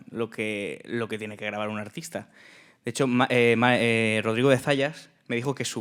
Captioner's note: speaking in Spanish